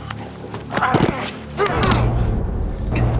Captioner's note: coughing